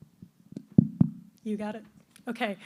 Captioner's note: tapping mic